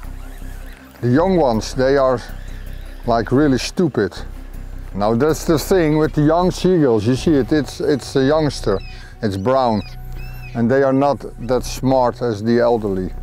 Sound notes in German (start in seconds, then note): 0.1 Möwen